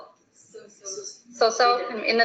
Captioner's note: students speaking in the background